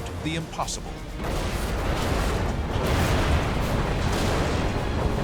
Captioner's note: explosions